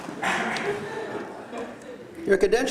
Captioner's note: laughter